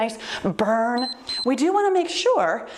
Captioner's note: timer beeps